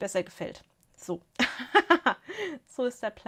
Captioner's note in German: gelächter